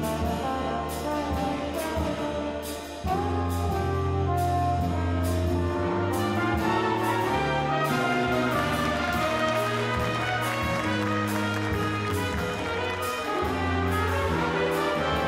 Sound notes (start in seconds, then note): 8.2 scattered applause; 13.3 mellow jazz music